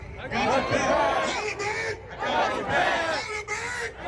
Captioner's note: crowd